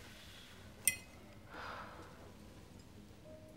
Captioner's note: sighs; dramatic piano music